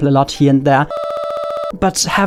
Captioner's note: stuttering voice noises